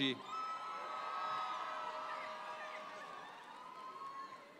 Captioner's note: audience applauds